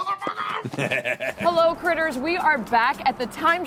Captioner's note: evil laughter